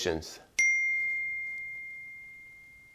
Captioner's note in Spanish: ding